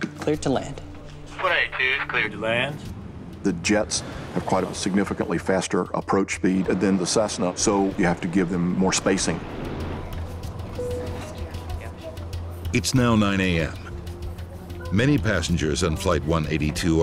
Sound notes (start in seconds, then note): 10.7 sign dings